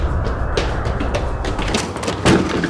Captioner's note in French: bruit de course; musique douce